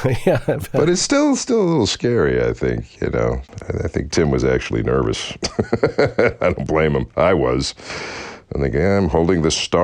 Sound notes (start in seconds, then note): 5.4 laughter